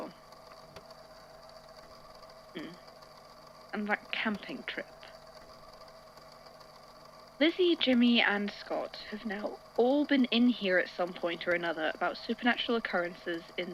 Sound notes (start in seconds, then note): 3.6 thoughtful hum